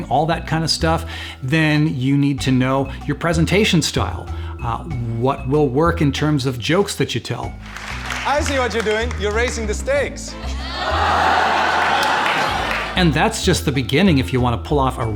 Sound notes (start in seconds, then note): 10.3 crowd laughing